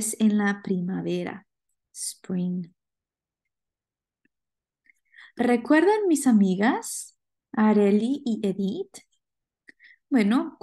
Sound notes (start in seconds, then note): 5.3 speaking spanish